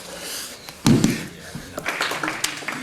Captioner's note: strong tapping; audience applauding